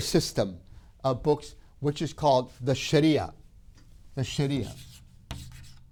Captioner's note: chalk scrapes